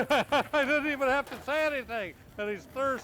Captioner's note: laughs